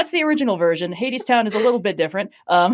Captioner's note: laughs